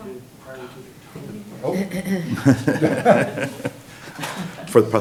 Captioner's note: laughing